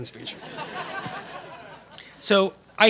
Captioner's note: laughter